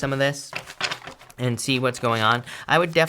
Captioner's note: page turns